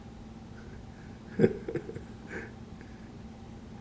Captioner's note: laughing